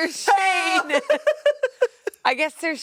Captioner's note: yells